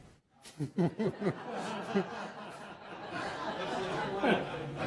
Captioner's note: laughter